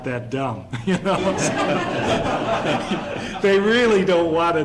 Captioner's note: laughter